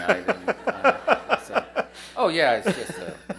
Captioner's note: laughter